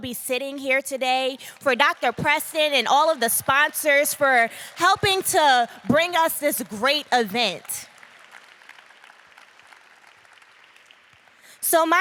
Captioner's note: applause